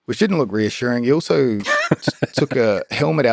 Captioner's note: Lex laughs